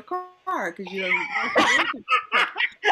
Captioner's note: laughter